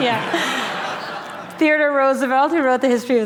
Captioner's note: laughter